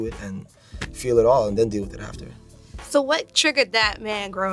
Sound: none

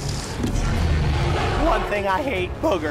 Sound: dinosaur roaring

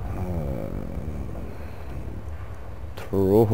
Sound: mumbles

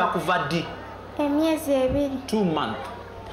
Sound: speaking in local language

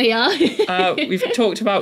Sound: laugh

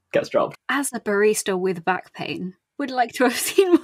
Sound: laughing

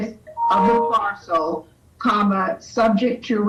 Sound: machine beeps

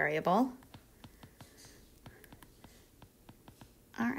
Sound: pen scribbling

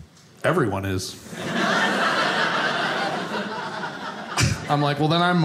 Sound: audience laughing

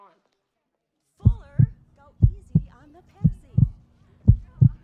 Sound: heartbeat starts

